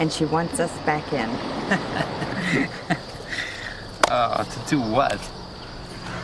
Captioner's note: laughing